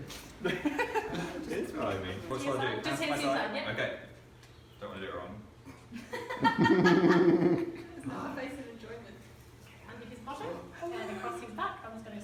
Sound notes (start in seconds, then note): 0.4 laughs; 5.7 and others chuckle in background